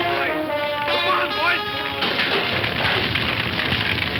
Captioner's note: fire crackling